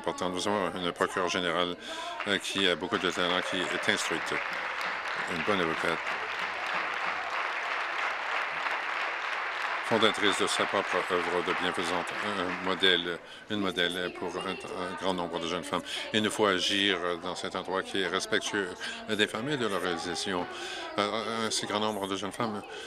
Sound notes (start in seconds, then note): 6.0 applause